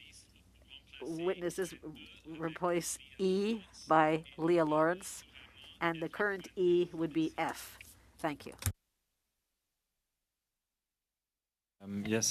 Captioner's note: speaking French